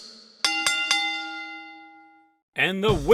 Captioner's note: ding ding ding!